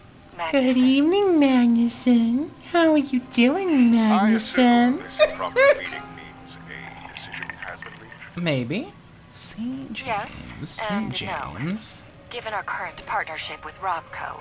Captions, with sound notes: Good evening, Magnuson. How are you doing, Magnuson? (laughs) Maybe, St. James. St. James.